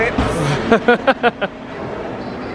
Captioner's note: laughing